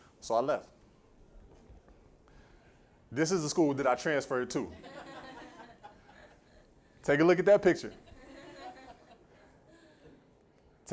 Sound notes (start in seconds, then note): 4.6 laughter